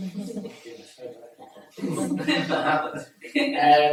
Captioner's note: attendees chuckle